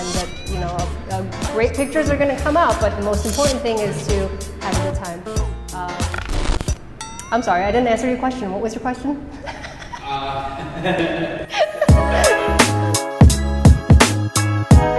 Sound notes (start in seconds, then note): 6.1 static whirring; 9.4 laughing; 11.8 rhythmic music